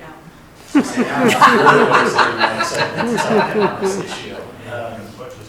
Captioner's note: board members laughing